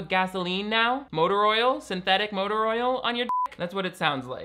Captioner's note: beep